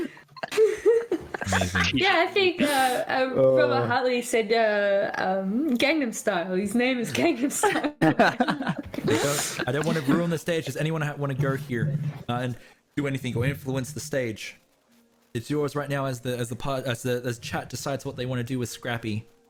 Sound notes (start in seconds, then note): 0.0 mute; 0.0 giggles again; 0.0 more giggles; 7.7 laughs